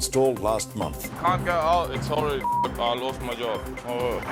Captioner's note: beep